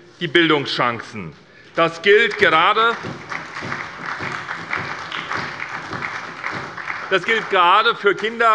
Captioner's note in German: Beifall bei der SPD